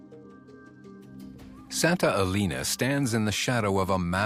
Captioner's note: narrator in English